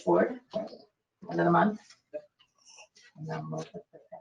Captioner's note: speaking faintly